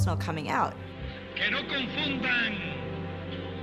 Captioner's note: speaking Spanish